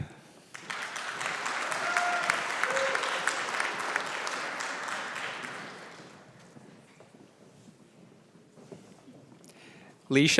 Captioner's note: applause